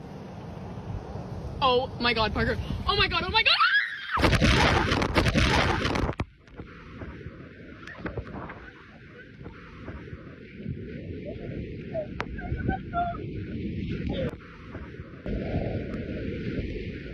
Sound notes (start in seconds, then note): 3.4 screams; 4.4 water sloshing